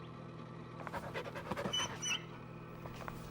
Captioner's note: dog panting and whimpering